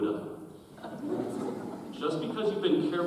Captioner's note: audience chuckles